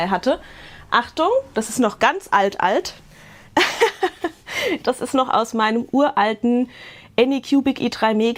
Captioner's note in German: gelächter